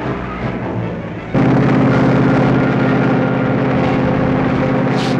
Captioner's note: engine roaring